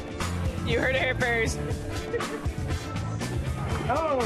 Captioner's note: both laugh